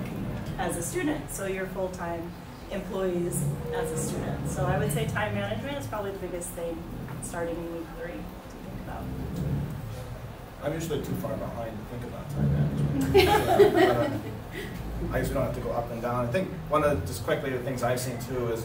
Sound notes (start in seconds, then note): 9.0 background shuffling noises; 12.7 laughs